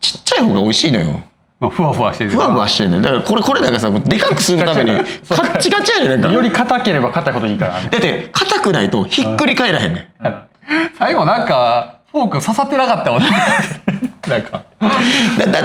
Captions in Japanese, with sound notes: ちっちゃい方が美味しいのよ。 ま、ふわふわして。 ふわふわしてんだ。だからこれ、これなんかさ、もうでかくするためにカチカチや。なんか [笑い] より硬ければ硬いこといいから だって硬くないとひっくり返らへんね。 最後なんかフォーク刺さってなかったもなんかだってさ、あのあれやんてかさ、これ食いたくないっつって言ってさ、上の生クリンズだ食ってたや。 [笑い]